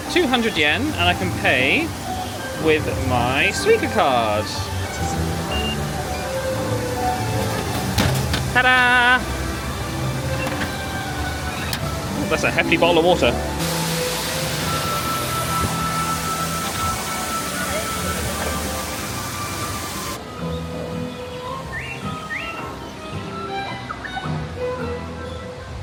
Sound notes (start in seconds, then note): 4.4 machine beeps; 5.4 bright music; 15.1 bright music; 15.1 water whooshing; 20.4 birds tweeting; 20.6 bright playful music